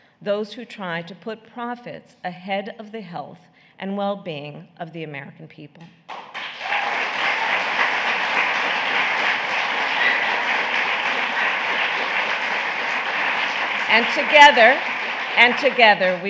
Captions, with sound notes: those who try to put profits ahead of the health and wellbeing of the American people. (Applause.) And together -- and together,